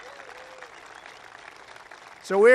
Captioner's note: applause